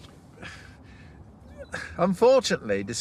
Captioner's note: he exhales